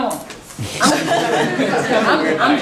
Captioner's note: laughing